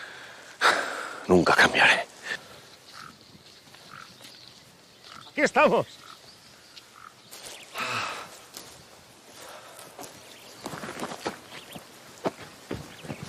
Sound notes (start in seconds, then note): 0.4 whispering; 7.7 sighs